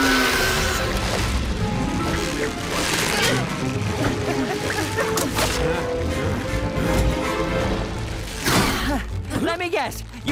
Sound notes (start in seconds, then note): 1.6 roars; 5.8 all panting